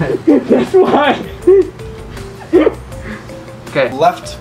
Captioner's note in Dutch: Gelach